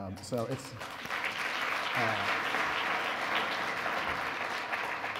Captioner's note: audience applause